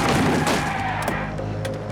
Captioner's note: tires screeching